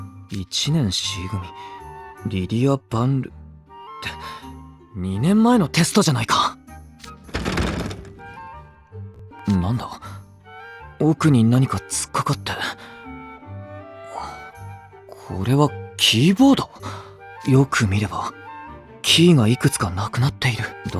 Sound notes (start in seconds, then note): 7.1 rustling noises